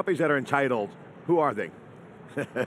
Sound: chuckling

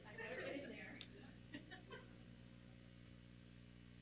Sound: laughing

